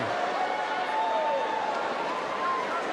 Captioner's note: crowd cheering